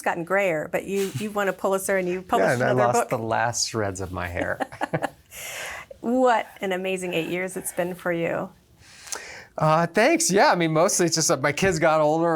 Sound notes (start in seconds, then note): 4.3 laughs